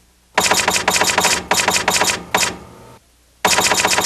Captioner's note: typewriter clicking